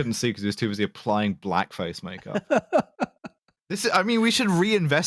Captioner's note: laughs